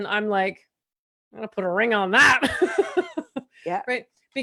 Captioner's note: laughs